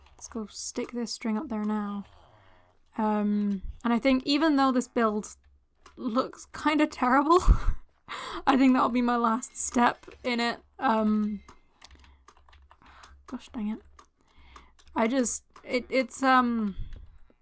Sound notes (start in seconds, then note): 7.4 laughter